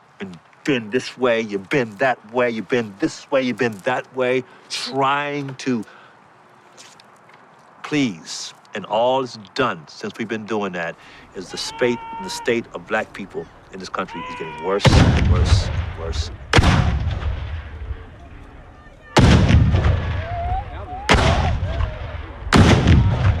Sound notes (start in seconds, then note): 14.0 man hollers; 14.8 artillery explodes; 19.1 artillery explodes